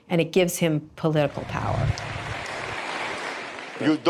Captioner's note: applause